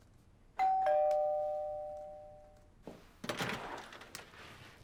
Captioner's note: doorbell ringing